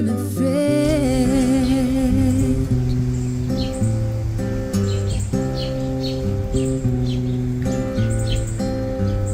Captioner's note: birds chirping